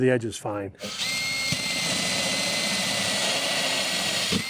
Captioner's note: drill whirring